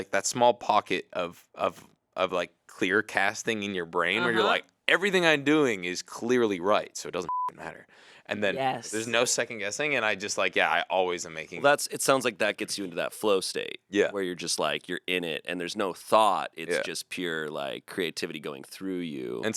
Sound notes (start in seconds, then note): 7.2 beep